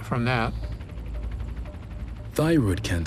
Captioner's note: engine roaring